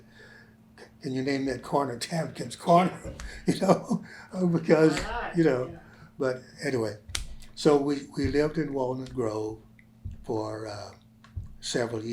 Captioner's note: laughs